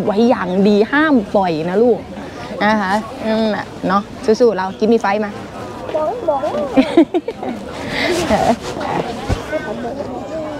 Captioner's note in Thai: เสียงหัวเราะ